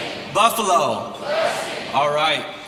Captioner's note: crowd